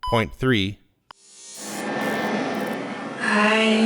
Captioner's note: static